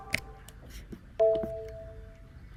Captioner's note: player leave sound